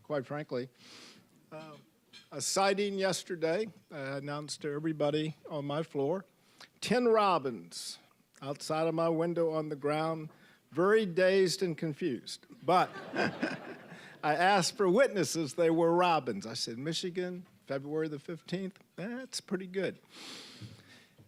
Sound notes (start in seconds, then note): 12.8 audience laughing